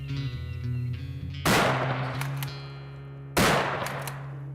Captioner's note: gun firing